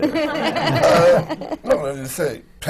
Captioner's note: laughter